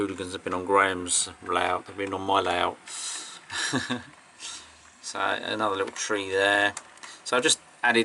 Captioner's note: laugh